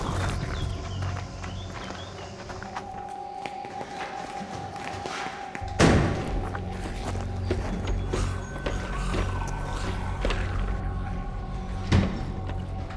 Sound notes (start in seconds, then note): 5.4 door bangs